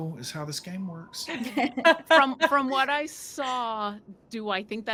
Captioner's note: laughs